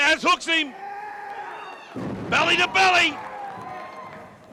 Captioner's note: crowd chatter